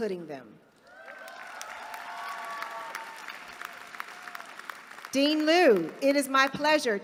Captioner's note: applause